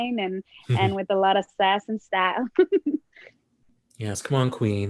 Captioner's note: chuckles